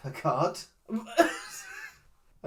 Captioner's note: wheeze laughs